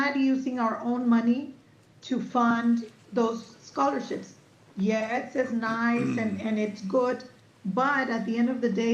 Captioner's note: clears throat